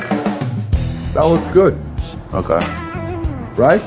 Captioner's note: none